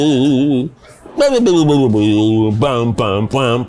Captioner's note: babbling